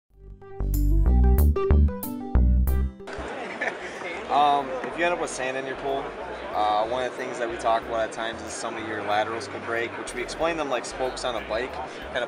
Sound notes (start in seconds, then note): 0.2 bright music; 3.1 speaker chuckles